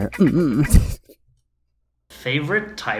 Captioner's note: laughs